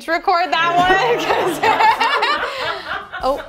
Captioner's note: laughter